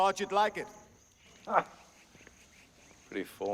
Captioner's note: laughs